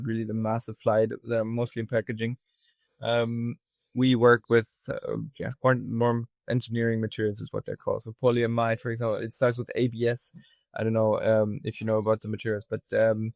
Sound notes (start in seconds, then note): none